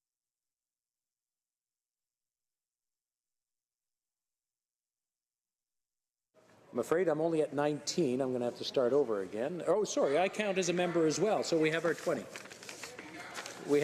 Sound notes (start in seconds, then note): none